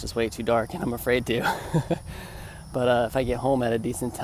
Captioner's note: laughter